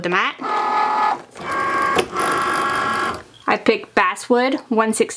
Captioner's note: Cricut humming